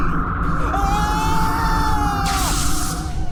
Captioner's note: Zepethar screams